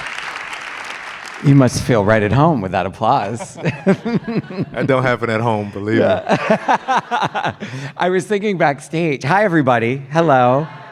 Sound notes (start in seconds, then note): 0.0 theme music plays; 0.0 audience applause and cheering